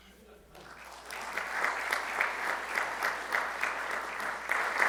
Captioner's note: audience clapping